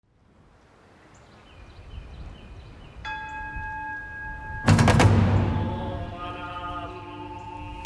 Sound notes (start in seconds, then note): 0.8 birds chirping; 3.7 bell rings; 4.8 chanting; 7.6 speaking japanese